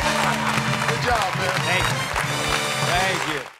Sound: cheers and applause

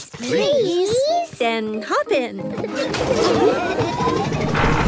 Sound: laughing

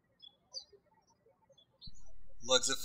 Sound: birds chirping

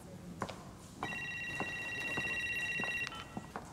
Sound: phone ringing

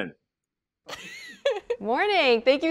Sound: laughs

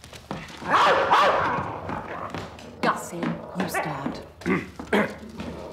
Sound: barking; bad lrish accent

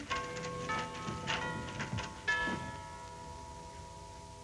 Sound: bells chiming

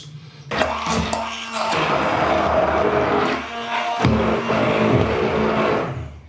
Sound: grungy machine noise

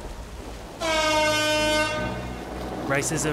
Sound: klaxon

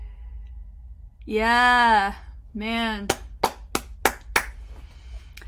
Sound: claps

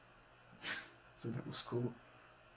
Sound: laughing

